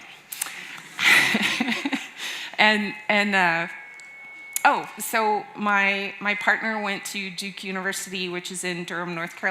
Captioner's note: laughs